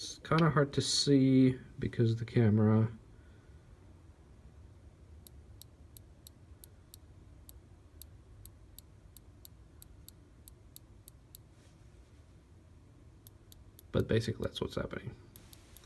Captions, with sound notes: It's kind of hard to see, because of the camera... (click click click) (click click click click click click) (click click click) but basically that's what's happening. (click click)